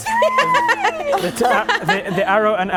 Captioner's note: laughing